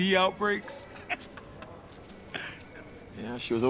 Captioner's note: chuckling